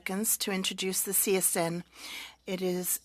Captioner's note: speaking French